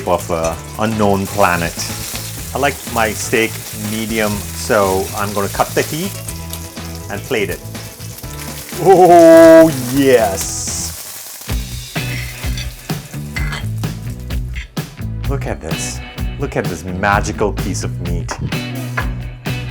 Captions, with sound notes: of a unknown planet. I like my steak medium. So I'm going to cut the heat, and plate it. Ooh. Yes. (plate clanking) (upbeat instrumental music) Look at this. Look at this magical piece of meat.